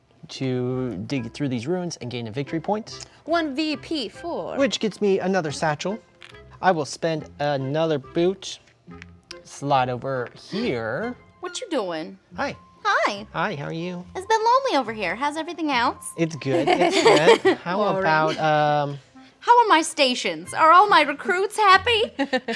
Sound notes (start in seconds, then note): 16.6 laughing; 22.3 laughing